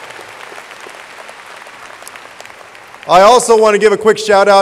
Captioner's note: audience applauding